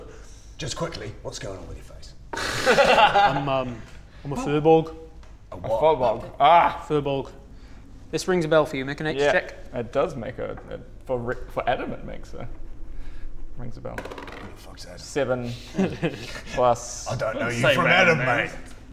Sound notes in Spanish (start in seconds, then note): 2.3 Risas